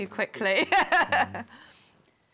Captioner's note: laughs